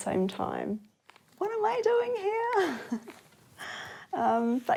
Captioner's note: chuckles